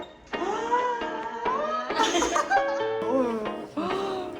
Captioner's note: gasps